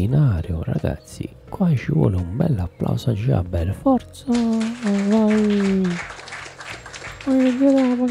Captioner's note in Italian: Applausi